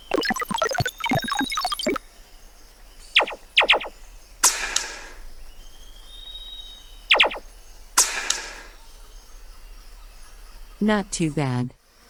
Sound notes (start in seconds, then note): 0.0 female prototype blipping; 3.2 gun blasts; 4.5 shot clanks; 7.2 gun blasts; 8.0 shot clanks